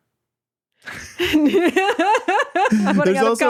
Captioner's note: laughing